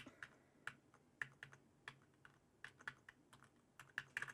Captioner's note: keyboard clicking